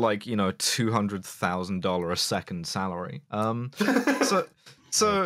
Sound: laughter

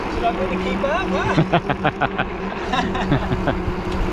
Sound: laughing

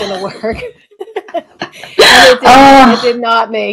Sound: laughs

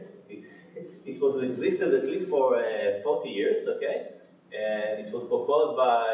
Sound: laughs

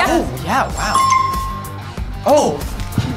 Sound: app chimes

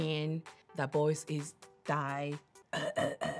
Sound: voice scratching

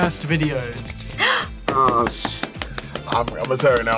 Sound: gasps

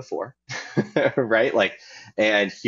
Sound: chuckling

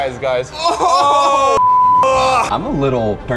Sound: beep

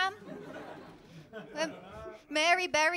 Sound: laughter

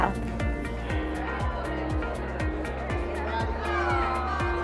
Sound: crowd chatter

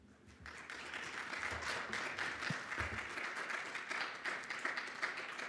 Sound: audience applauding

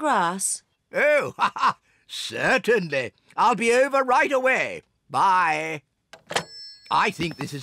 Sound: laughs

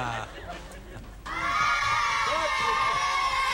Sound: audience laughing; children shouting

